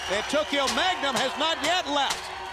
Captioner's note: crowd cheering